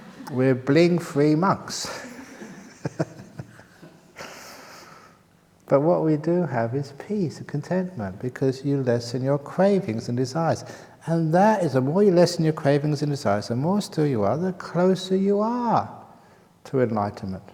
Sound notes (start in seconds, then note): 1.9 laughter